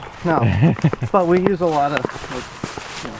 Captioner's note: laughs